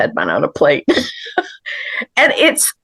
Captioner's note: laughs